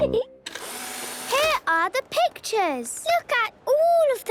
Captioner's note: whirring